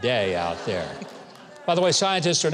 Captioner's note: audience laughs